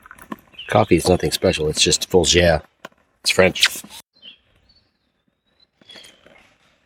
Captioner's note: bad French accent